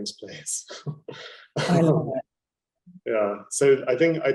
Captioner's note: laughing